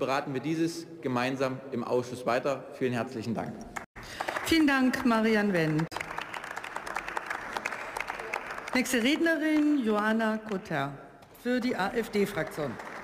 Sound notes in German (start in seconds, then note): 6.6 Beifall